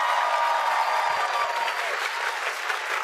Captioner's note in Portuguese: aplausos